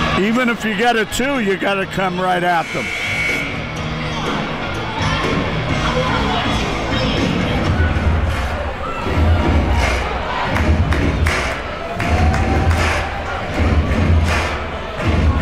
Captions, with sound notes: Even if you get a two, you gotta come right at them. (buzzer rings) (rhythmic stomping and clapping)